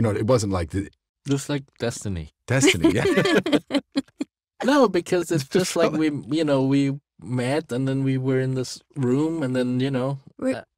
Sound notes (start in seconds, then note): 2.6 laughs